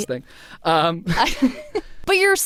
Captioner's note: laughing